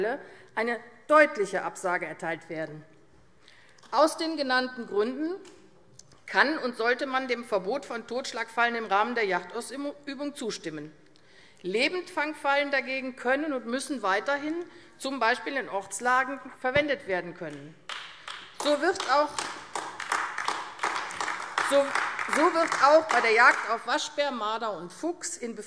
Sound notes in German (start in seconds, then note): 17.8 Beifall AfD